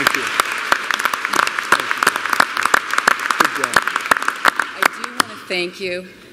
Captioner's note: applause